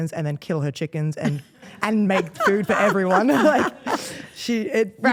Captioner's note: Stephanie laughing